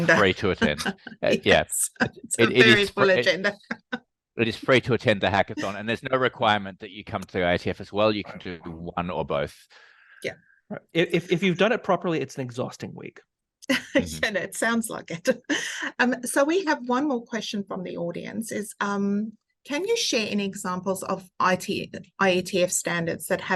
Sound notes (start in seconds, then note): 1.9 laughing; 13.9 laughing